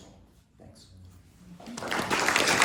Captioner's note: crowd applauding